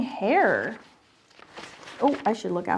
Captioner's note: paper rustling